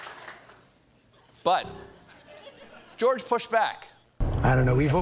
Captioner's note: laughter